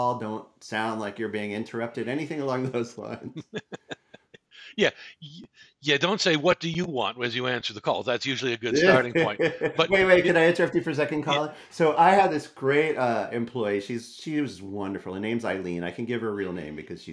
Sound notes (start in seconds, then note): 2.6 laughs; 8.8 chuckles